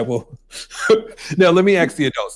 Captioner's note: laughs